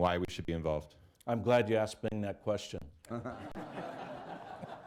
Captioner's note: laughter